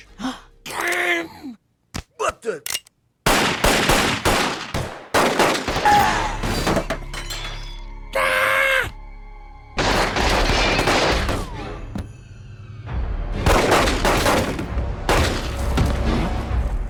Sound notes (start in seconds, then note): 0.0 gasps; 3.2 gunshots as firefight breaks out; 5.6 Disco Stu screams and falls dead onto coffee table; 8.1 Marge screams